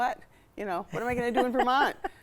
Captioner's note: chuckling